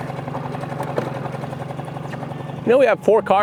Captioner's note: boat motor hums